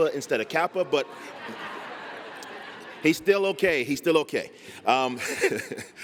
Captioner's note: laughter